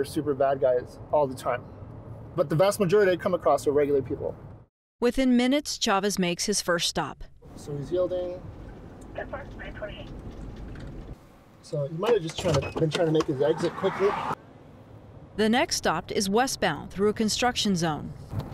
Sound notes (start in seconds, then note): 9.1 radio chattering